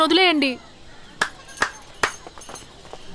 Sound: clapping

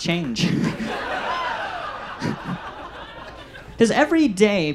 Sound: audience laughs

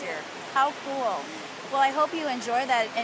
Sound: voiceover

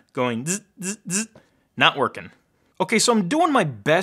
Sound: imitates buzzing

